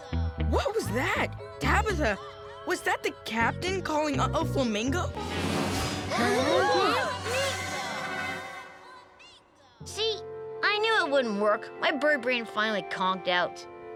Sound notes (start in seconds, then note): 6.1 children gasping